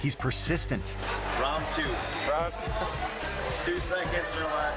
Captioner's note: friend laughing